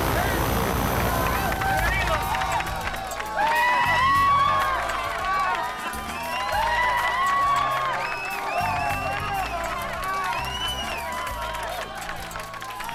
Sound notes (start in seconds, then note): 0.9 group applauds; 0.9 group cheers